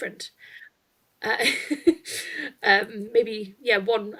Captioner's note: chuckles